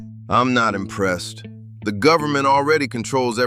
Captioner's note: flatly